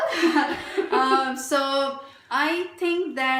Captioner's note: laughs